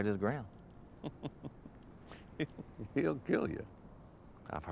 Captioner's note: laughs